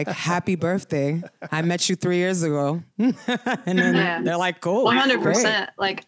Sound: laughter; laughter

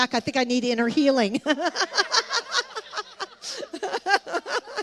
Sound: laughs

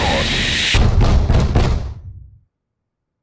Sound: banging on door

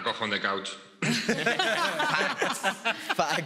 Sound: all laughs

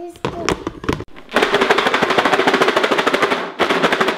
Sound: rattling sounds

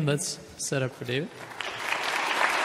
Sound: applauding

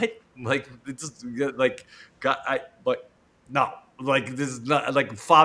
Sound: stammering

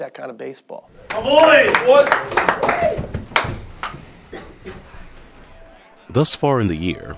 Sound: clapping

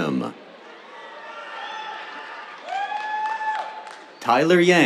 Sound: cheers, applause

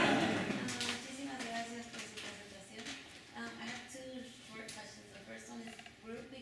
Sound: laughter; speaking spanish

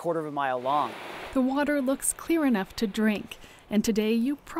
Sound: voiceover

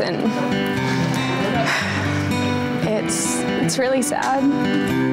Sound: sighs

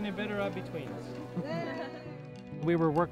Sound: laughter

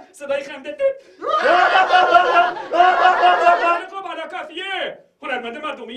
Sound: fake laugh sound

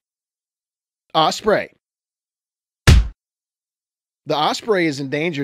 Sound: stamped sound

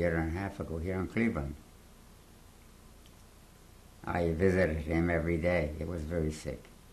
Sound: pauses for 3 seconds

